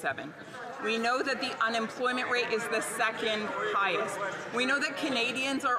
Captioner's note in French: voix de l'interprète